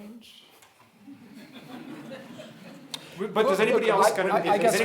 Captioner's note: audience laughing